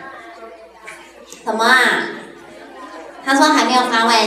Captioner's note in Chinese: 小聲